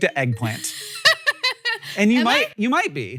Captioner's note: Rachel laughs